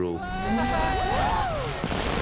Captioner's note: twins whooping